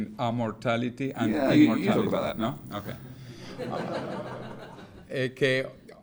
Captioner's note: audience laughs